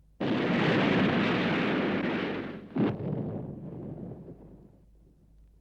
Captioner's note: explosions